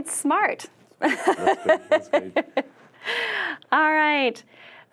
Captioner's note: chuckles